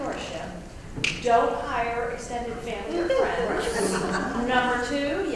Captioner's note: laugh